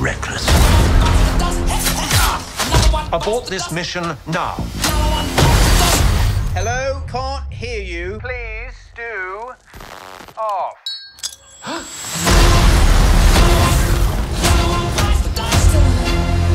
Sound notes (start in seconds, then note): 0.2 explosion booms; 5.7 explosion booms; 9.2 static crackling; 10.9 grenade pin pings; 11.6 German officer gasps; 12.3 explosion booms; 16.3 dramatic music